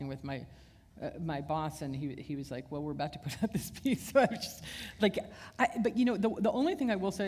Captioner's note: chuckle